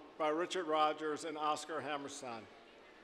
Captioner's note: none